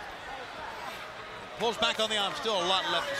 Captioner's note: crowd chatter